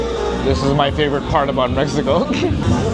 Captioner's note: laughs